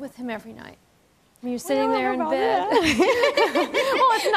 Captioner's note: laughs